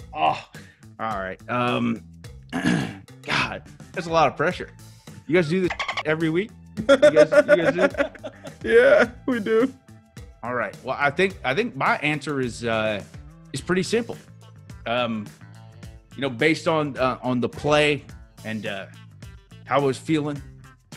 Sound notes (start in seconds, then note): 6.8 laugh